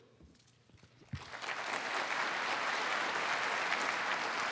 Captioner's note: applause